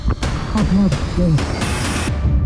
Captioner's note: dramatic music; indistinct conversation; dramatic music